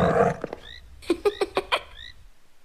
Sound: Arthur laughs

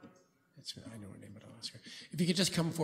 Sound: whispering

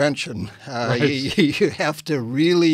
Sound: laughs

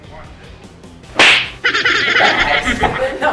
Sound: slapping sound effect; manic laughing

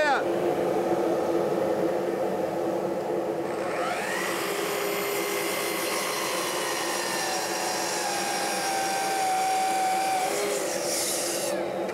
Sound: miter saw hums

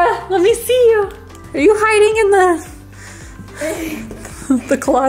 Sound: breathes heavily

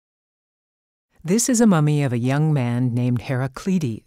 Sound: voiceover

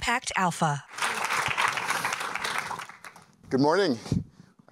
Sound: applause

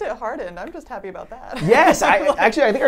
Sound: laughs

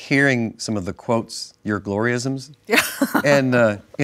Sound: laughs

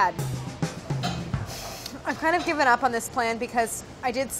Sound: upbeat drum beat; sighs

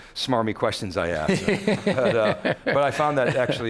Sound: laughs

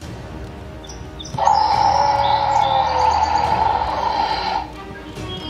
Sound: dinosaur Roars

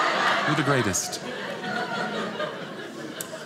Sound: audience laughing

